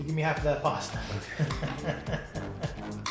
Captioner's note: laughs; chill music